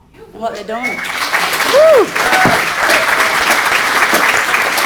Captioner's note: audience applauding